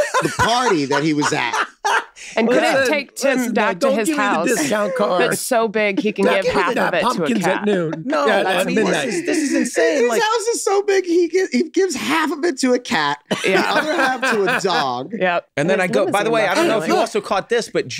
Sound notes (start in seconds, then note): 2.7 men laugh and chatter indistinctly